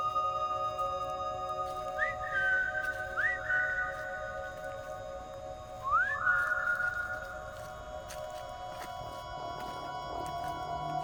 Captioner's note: mysterious Whistles